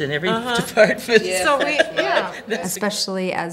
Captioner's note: laughs